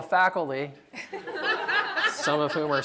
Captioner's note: laughter